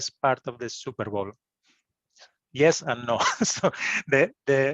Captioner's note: laughter